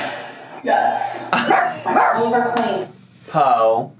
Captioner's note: Potato barks